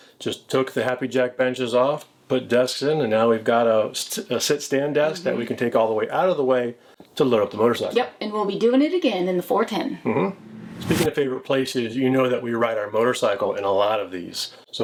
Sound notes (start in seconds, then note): 10.3 logo whooshing